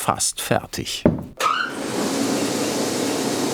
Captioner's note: thumping